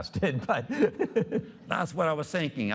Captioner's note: chuckling